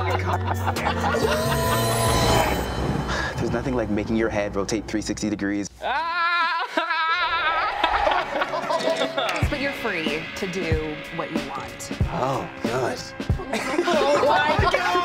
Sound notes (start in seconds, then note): 0.0 all laughing; 2.1 thunderous clap; 11.4 ghoulish music; 13.4 all laugh